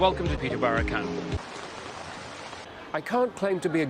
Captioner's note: rainfall